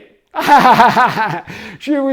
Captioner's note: laughs